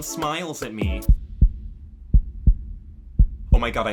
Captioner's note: heart beating